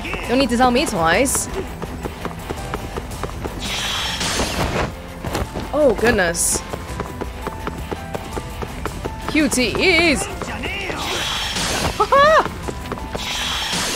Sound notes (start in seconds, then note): 11.8 laughs